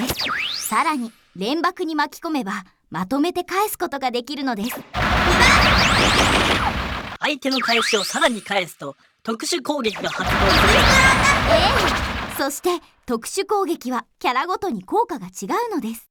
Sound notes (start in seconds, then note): 5.6 pow